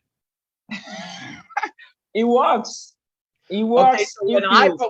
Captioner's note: laughs